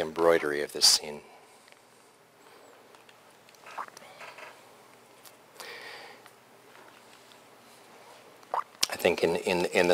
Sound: pause

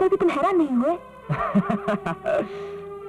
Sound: laughs

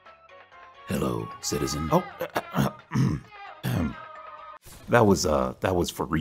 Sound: clears throat

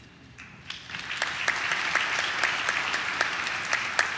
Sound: audience claps

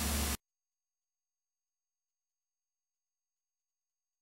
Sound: silence

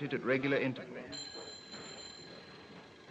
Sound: phone rings

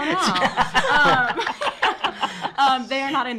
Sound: laughing

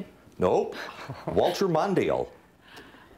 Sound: students laugh

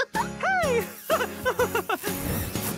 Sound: laughing; giggles

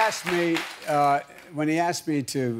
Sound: cheers and applause

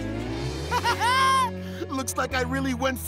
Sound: laughing

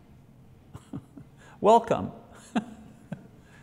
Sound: laughs

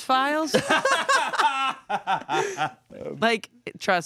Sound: everyone laughs

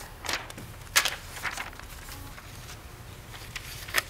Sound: paper rustling

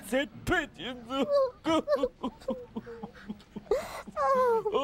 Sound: both crying

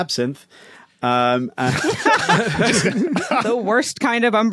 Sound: group laughing

